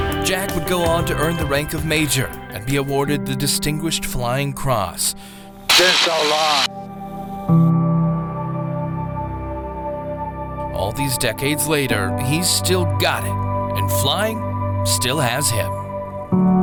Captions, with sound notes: Jack would go on to earn the rank of Major, and be awarded the distinguished Flying Cross. (radio static drowns out speaker) All these decades later, he's still got it, and flying still has him.